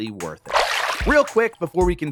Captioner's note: water splashing